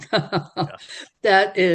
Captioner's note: laughing